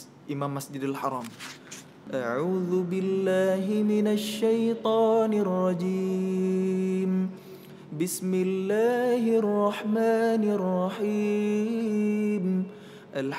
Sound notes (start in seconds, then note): 2.1 recites quran